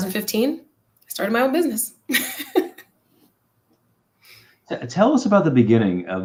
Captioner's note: laughter